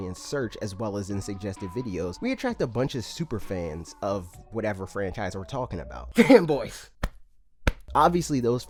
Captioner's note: cough